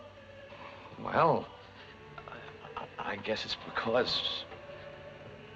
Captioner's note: stuttering